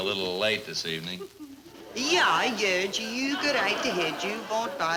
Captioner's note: accented